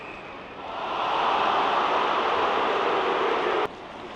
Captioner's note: crowd cheering